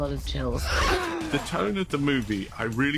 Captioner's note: inhales